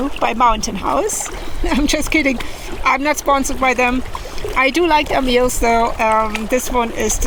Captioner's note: laughs